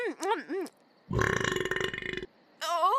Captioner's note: belches